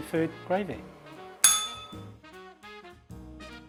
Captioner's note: bell rings